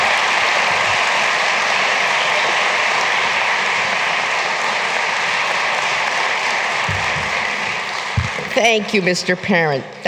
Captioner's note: applause